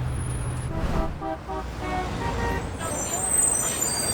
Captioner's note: car horns honking